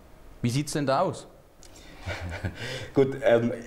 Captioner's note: laughing